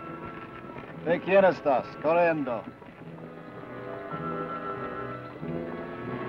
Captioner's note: Ben speaks foreign language